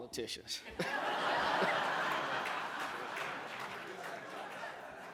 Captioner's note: laughter